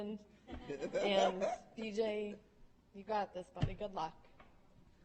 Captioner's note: chuckling